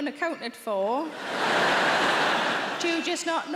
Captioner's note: audience laughing